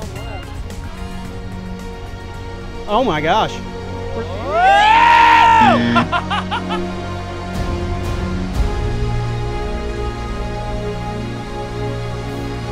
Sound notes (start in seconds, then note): 0.2 triumphant music; 5.6 buzzer